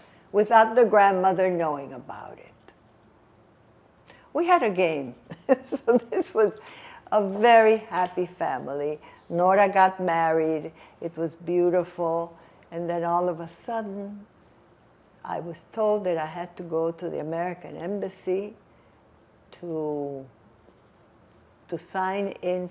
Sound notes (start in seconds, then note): 5.3 laughing